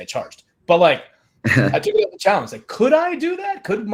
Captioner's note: chuckles